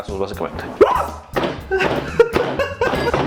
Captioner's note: wuaugh!